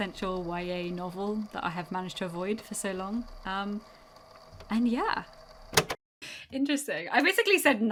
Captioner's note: tape recorder clicks off